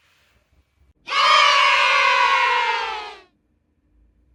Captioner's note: sound effect: Yayy!!!